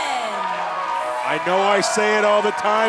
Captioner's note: crowd cheering